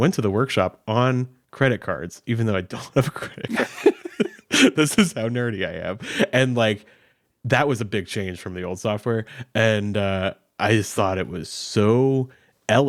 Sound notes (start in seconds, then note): 3.2 both laughing